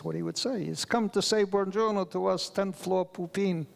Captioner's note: speaks foreign language